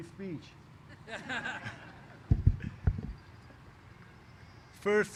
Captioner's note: laughter